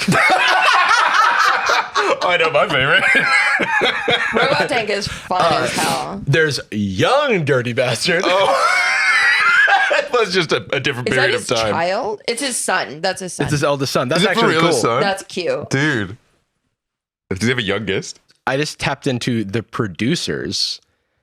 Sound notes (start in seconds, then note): 0.0 laugh; 3.5 laughs; 8.0 laughs